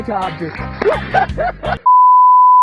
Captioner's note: laughing